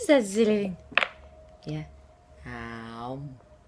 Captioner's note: coos at baby